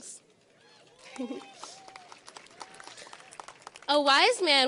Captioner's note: audience applauds